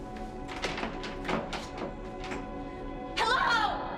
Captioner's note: doorknob clattering